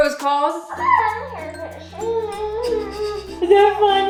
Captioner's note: baby cooing